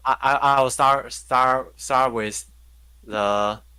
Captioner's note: none